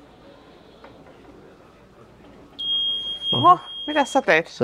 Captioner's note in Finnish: Piip